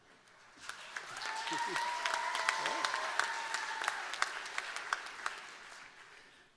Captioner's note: cheers and applause